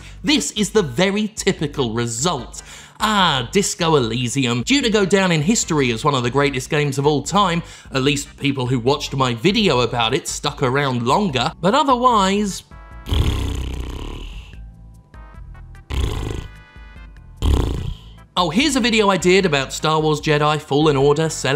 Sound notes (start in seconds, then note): 13.0 sighing lip-trill; 15.9 lip-trill